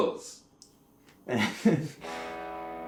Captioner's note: laughter